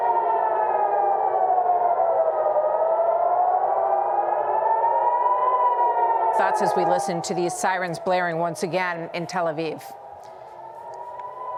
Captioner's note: sirens sounding